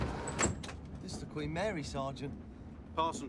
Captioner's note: compartment door opens